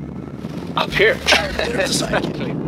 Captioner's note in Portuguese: risos